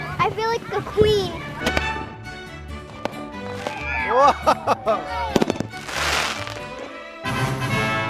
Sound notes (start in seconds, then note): 0.0 fireworks popping; 5.2 fireworks cracking